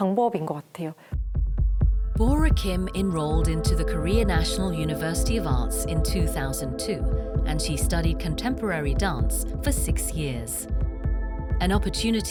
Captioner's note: voiceover